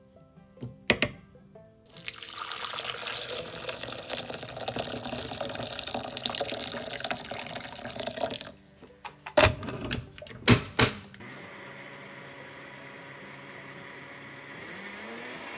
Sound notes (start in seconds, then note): 1.9 water splashing; 11.3 motor whirring